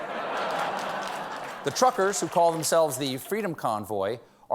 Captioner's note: laughter